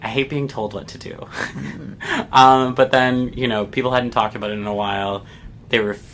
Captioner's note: laughs